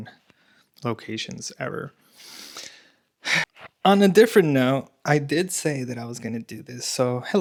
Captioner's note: snorts